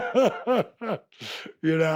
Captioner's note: Dallas laughs